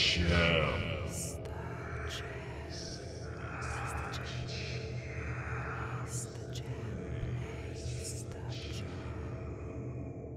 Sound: faint whispering

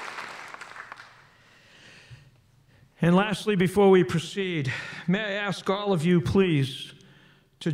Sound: applause

